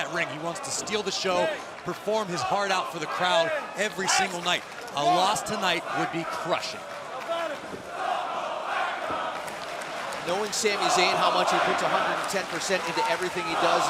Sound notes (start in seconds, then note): 7.7 crowd cheering